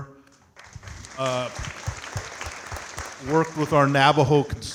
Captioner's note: audience clapping